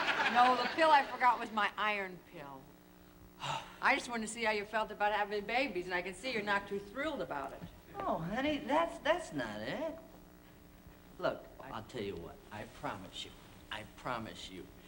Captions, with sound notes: No, the pill I forgot was my iron pill. -[ Sighs ] -I just wanted to see how you felt about having a baby, and I can see you're not too thrilled about it. No, honey, that's not it. Look, I'll tell you what. I promise you, I promise you,